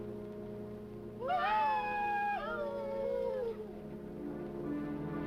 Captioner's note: people howling